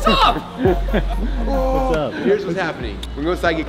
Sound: laughs

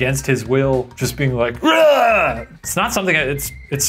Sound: retching

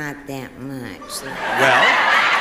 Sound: audience laughing

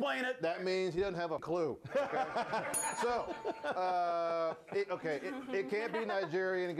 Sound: bell rings

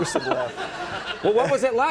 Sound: audience laughing

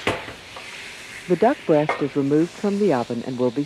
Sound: voiceover

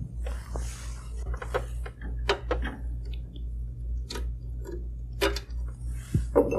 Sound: scraping; clink

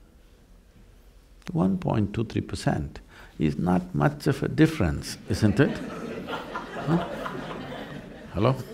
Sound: laughter

